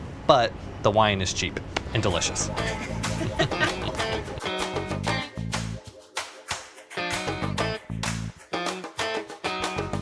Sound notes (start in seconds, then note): 2.4 both laughing; 7.2 upbeat music